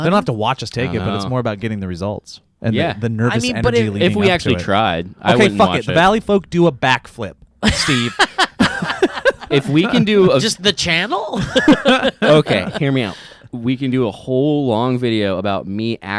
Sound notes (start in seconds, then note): 7.6 laughs